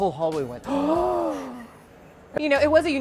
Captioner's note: gasps